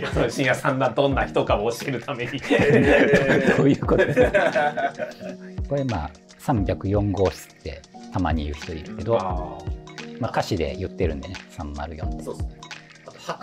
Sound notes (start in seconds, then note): 2.4 laughing